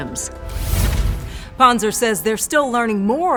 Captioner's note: air whooshes